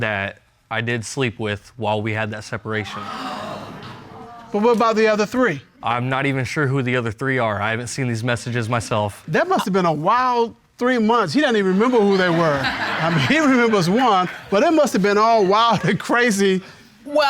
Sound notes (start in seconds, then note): 2.8 audience gasps